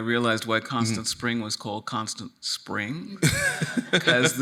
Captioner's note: laughing